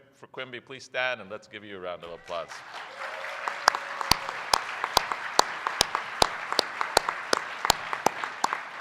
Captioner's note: applause